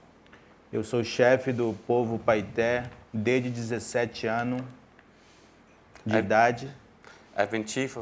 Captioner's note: speaking in portuguese